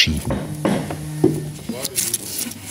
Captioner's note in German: Hämmern im Hintergrund